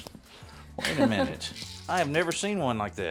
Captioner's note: laughs